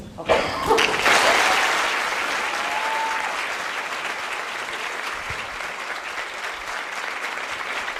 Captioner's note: applause